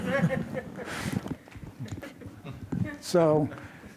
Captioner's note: audience laughs